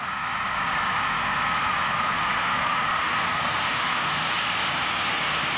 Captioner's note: train passes